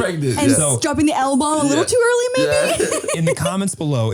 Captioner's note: laughing